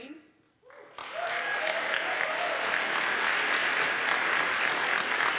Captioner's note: audience applauds